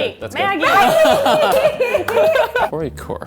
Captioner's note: laughing